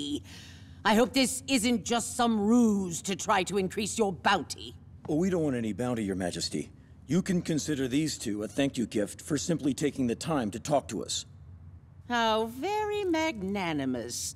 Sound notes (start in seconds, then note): none